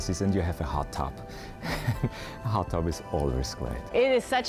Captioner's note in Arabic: يضحك